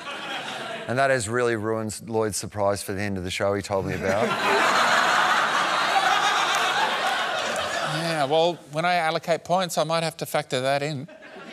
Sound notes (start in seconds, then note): 3.9 laughter